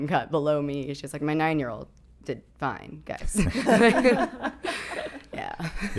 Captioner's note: laughing